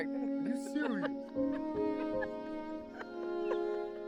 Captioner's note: laughter